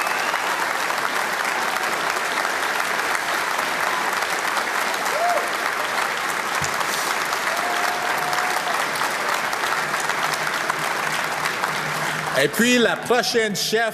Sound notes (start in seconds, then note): 3.1 cheer and applause